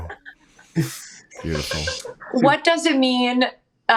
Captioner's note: laughing